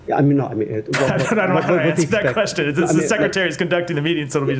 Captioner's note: laughter